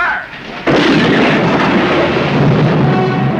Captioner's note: cannon booming